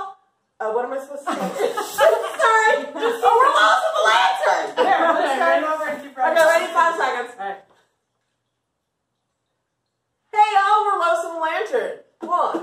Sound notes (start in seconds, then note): 1.3 laughing